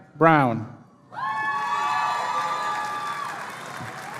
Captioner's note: cheering